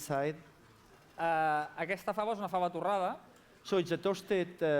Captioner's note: non-english speech